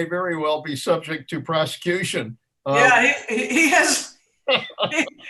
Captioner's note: laughs